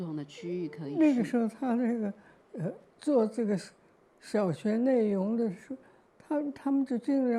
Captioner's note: Mandarin